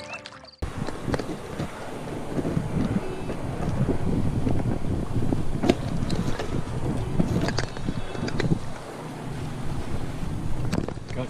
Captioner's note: wind blowing